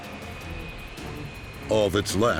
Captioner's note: engines whine